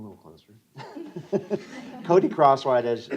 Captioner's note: laughter